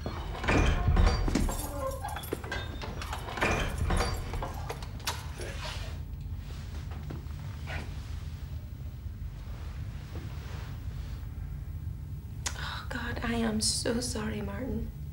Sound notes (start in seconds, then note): 0.0 door thudding; 1.0 keys jangling